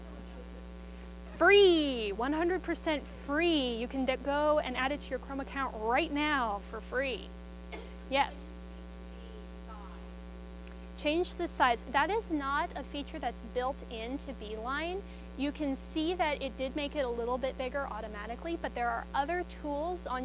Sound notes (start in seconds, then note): 7.7 student coughs